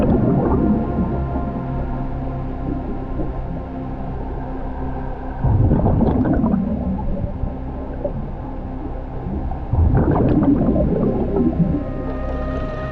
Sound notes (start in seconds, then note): 0.1 underwater sounds; 6.0 water bubbling